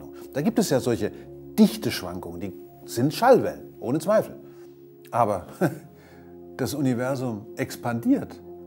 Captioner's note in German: lacht